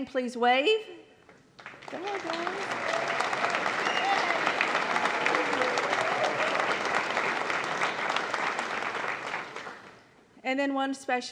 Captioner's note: applause